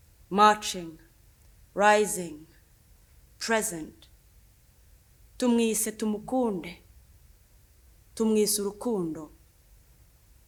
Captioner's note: speaks Kinyarwanda